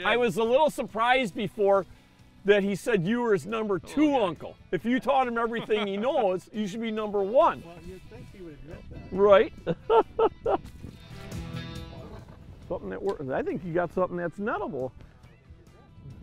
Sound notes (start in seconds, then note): 9.6 laughs; 11.3 blues rock music